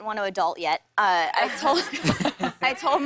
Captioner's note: laughter